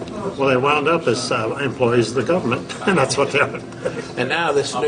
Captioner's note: laughs